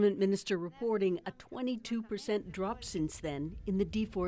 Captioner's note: speaking alternate language